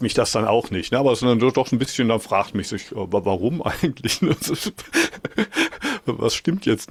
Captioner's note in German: gelächter